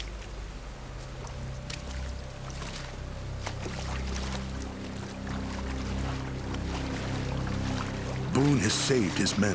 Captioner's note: water splashing